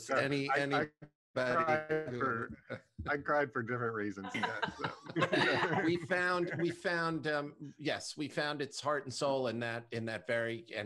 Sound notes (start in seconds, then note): 4.2 laughter